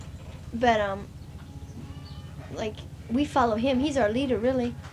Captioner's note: baby crying